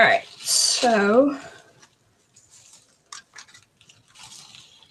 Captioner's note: shuffling